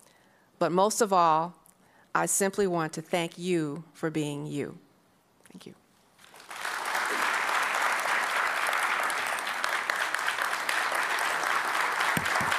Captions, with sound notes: but most of all, I simply want to thank you for being you. Thank you. (applause)